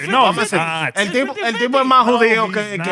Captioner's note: speaking Spanish